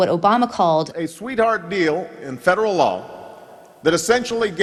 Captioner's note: soundbite of archived recording